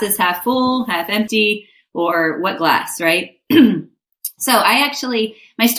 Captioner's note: clears throat